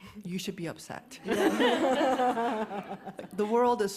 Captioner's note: laughter